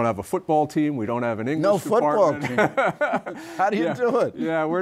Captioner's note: laughter